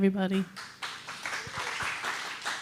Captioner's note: applause